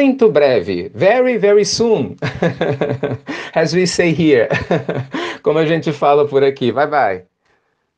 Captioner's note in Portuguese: risadas